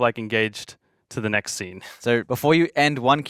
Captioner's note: chuckling